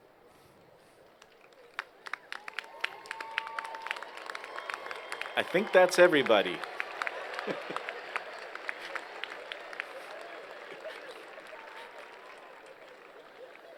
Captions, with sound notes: [Applause] >> I think that's everybody. (laughs) [Applause]